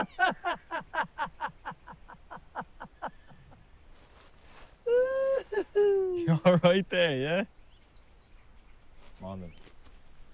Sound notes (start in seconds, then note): 0.0 laughing; 4.8 laughs